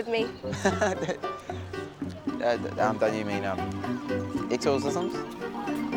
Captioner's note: laughs